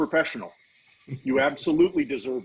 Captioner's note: laughing